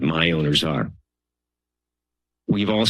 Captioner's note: pause